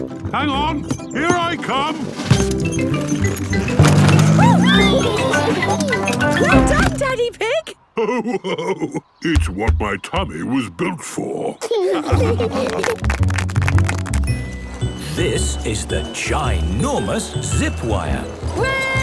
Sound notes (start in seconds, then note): 4.2 giggles; 7.9 laughing; 11.4 laughing; 12.6 clapping